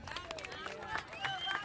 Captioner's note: cheers and applause